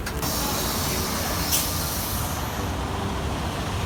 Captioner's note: engine rumbles